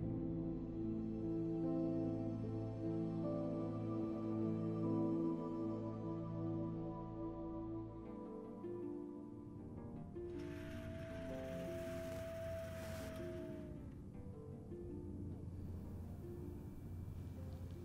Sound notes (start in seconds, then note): 0.1 somber music; 10.3 motor whirring; 10.4 gentle instrumental music